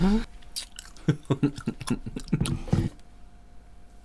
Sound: spitty Chewing Noises

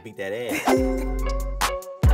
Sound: upbeat music; laughing

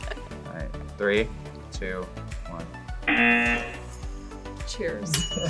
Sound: both laugh; buzzer

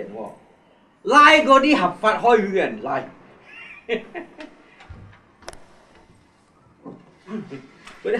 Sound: laughs

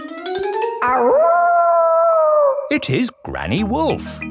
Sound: howling; kids yelling

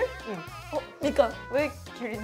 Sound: Mandarin

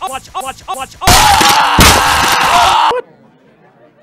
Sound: screams

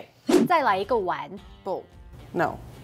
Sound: speaking in mandarin

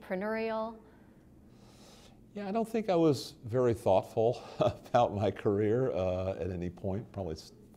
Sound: chuckle

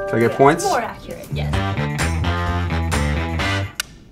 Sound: bell dinging

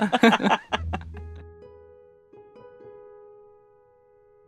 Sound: both laugh

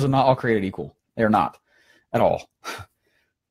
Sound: laughing

